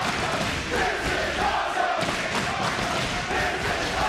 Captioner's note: crowd chants "this is awesome"